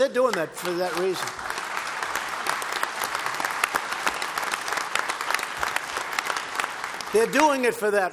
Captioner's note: applause